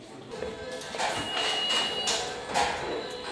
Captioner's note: workshop noise